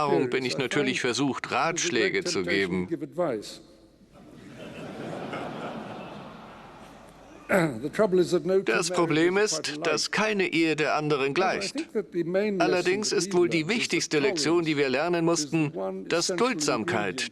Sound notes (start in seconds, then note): 4.2 audience laughing